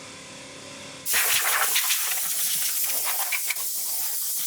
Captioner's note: nozzle spraying